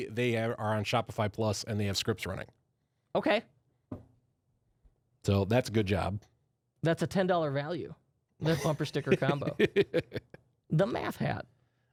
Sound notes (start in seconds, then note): 9.1 softly laughing